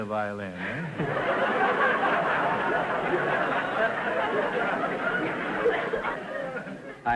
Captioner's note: audience laughter